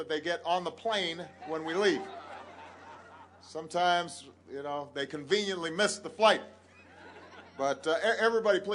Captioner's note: laughter